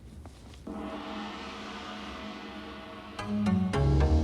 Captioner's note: gong chiming; gentle music